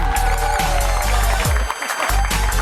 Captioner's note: cheers and applause